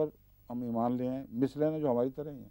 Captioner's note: Arabic